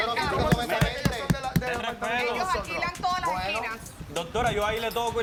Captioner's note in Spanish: Hablan al unísono